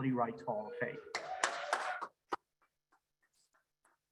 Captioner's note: audience applaudes